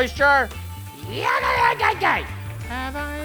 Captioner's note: Matty yelling